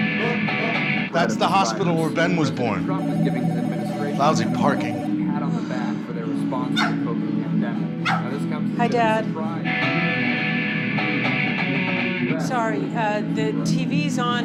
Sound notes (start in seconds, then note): 3.4 phone ringing; 5.2 loud guitar music; 8.0 dog barking; 10.4 loud guitar music